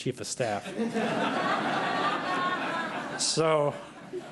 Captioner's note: laughter